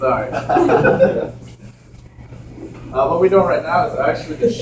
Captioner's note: laughing